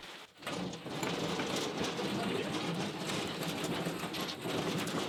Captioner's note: wheels rolling